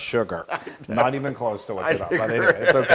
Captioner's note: laugh